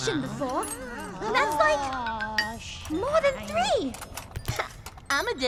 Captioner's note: counting